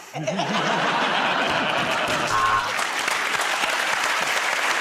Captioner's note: buzzer buzzes; applause